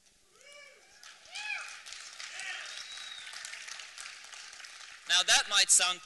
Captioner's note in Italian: applausi